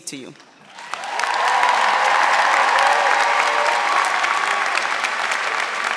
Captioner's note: audience applauding and cheering